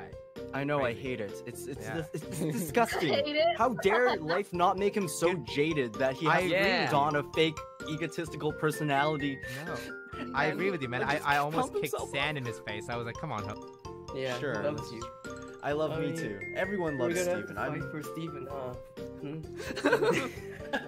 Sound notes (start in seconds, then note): 9.4 fake cries; 19.6 laugh